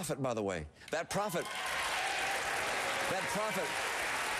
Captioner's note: applause